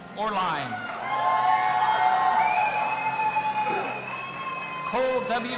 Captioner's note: audience applauding and cheering